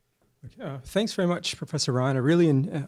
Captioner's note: voiceover